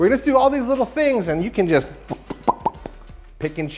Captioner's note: popping